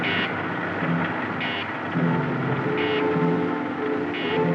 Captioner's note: electronic beeping